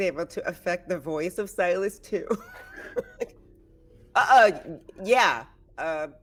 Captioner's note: laughing